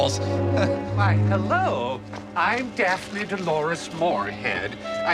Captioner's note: American accent